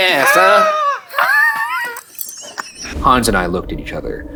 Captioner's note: laughing